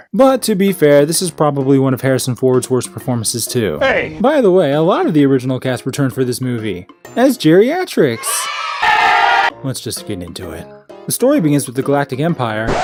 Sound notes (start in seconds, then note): 8.1 children cheering; 8.2 distorted children's cheering